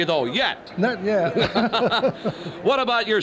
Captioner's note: laughs